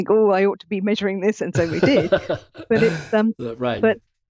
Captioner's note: chuckling